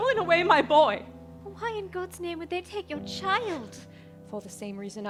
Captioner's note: gasping